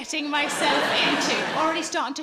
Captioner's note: audience laughing